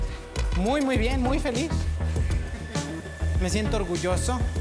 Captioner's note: speaks Spanish